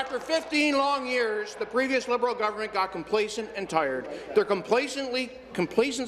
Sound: applause

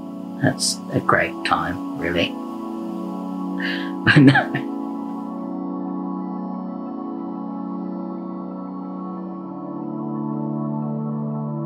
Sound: laughs

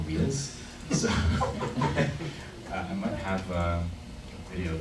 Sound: laughing

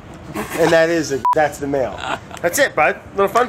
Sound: laughing

